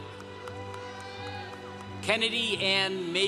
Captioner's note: congregation cheering